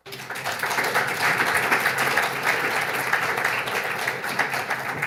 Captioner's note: audience applauds